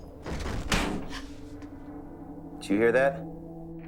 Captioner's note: thud